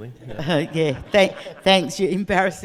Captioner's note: audience laughing